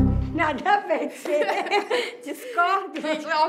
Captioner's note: laughs